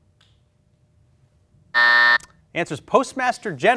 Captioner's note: buzzer